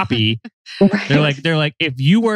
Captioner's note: laughs